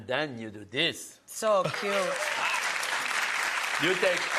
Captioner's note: audience applauds